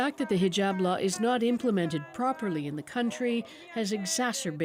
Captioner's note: speaking Alternate Language